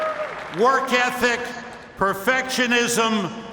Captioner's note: cheers and applause